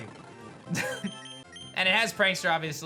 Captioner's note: chuckles